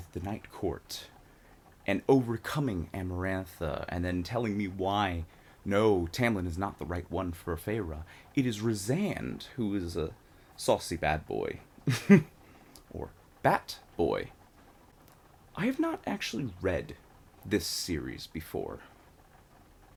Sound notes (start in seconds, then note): 11.8 chuckles